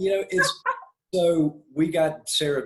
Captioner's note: laughs